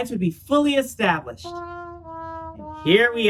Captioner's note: sad trombone sound